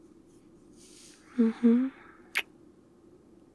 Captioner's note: kiss